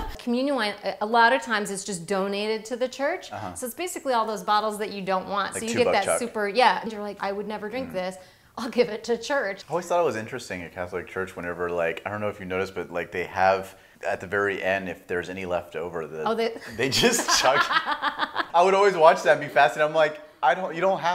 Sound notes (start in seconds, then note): 16.6 laughing